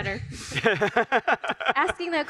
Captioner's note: all laugh